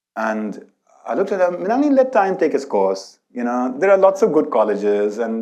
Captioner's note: none